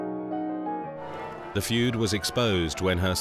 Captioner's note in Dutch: klokken luiden